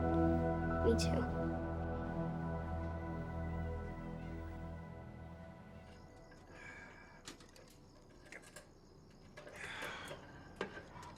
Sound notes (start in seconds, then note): 7.9 grunts